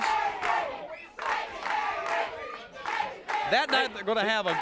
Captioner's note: crowd chanting